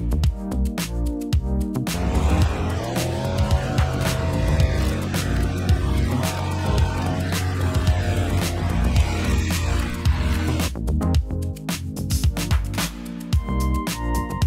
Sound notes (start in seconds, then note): 1.9 engine continues revving; 10.8 upbeat music continues